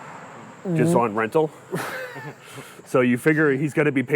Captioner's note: laughs